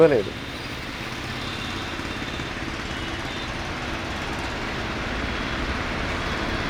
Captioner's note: traffic Noise